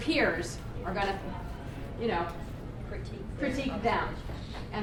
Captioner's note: voiceover